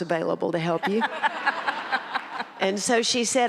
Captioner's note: audience laughs